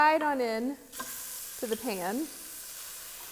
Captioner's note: meat sizzling